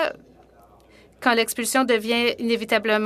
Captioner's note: speaking French